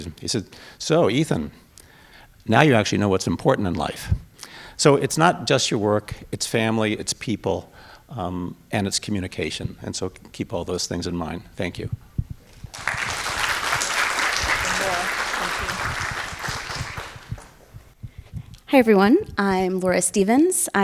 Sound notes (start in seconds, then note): 12.5 audience clapping